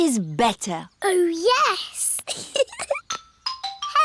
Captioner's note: giggles